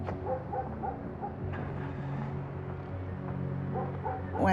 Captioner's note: dog barking in distance